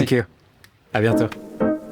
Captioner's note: speaking french